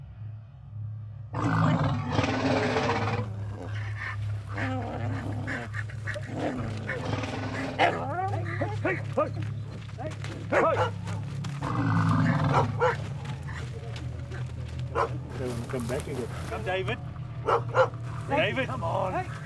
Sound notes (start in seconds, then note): 0.2 tense music; 1.4 animals grunting; 1.4 animals roaring; 8.6 hunters shouting; 10.0 dog barking